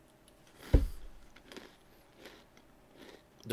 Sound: happy eating noises

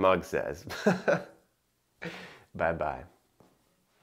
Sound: chuckling

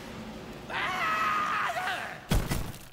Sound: screaming

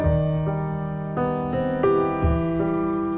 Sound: distant cow bells

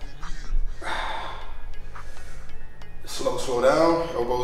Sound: exhales

